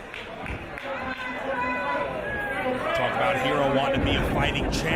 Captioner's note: applause